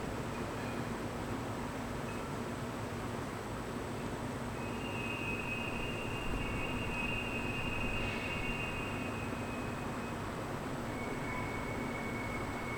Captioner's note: wind blowing